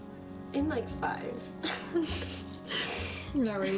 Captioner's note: laughing